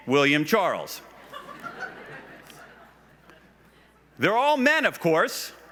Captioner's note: laughs